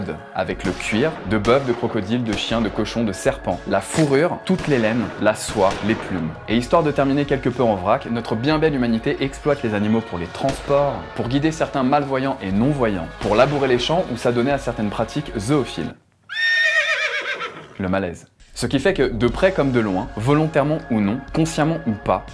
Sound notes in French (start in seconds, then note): 16.2 hennissement de cheval